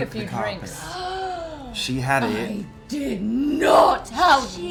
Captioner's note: gasps